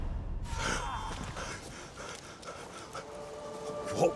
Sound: panting

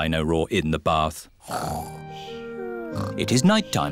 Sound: snoring

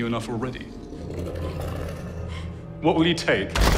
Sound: growling

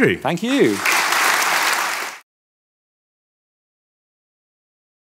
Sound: audience applause

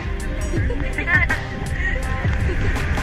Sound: laughs

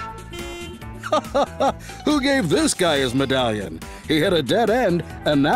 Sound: laughs

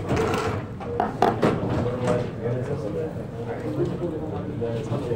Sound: students chattering quietly

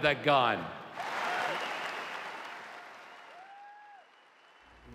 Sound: audience applause

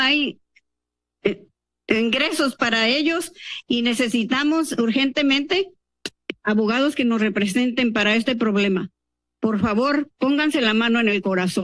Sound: speaking in Spanish

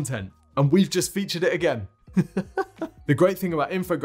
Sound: laughs

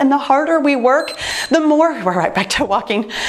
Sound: timer beeps

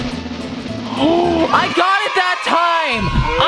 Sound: drum roll; audience cheers

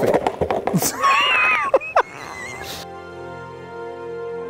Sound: laughs; gentle orchestral music

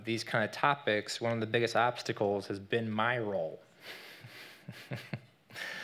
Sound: laughs

